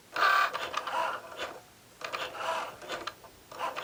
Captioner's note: machine whirring